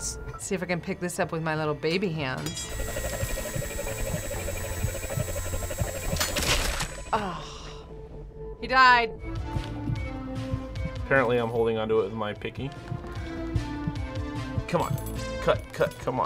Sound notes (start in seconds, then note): 2.6 ninja star whirring; 6.3 smack!; 7.1 deep sigh